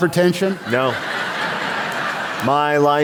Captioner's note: laughter